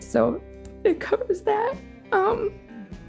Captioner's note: voice breaks